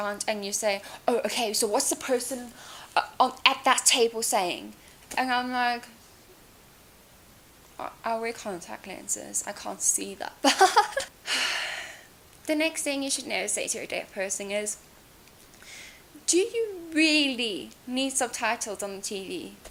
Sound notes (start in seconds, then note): 10.4 laughs; 11.2 sighs